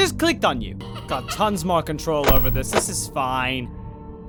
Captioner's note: Minireenas laugh